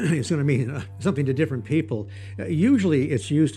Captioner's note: droning sound